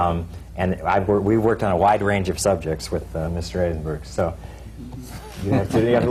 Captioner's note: laughter